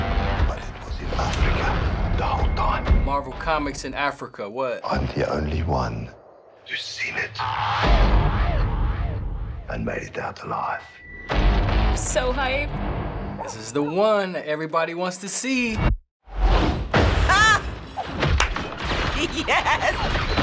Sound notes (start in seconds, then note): 7.6 dramatic thud; 11.3 exhilarating music; 19.1 laughs